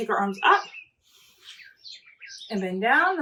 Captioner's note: inhaling